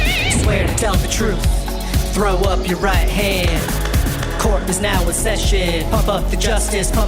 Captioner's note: gavel sounds